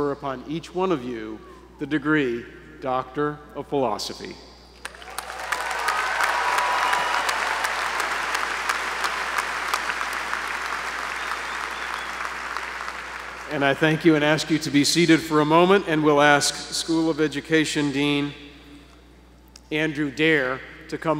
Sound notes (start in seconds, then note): 4.8 applause